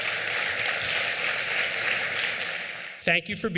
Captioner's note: applause